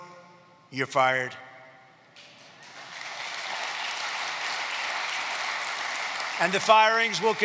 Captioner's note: applause